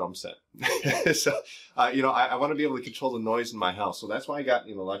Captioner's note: laughs